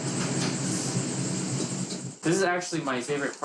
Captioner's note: machine rumbling